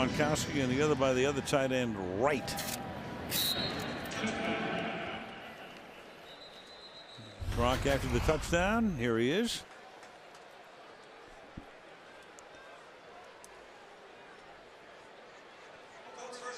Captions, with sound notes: 1 by Gronkowski, and the other by the other tight end, Wright. [pa announcement] [whistle] Gronk after the touchdown. Here he is.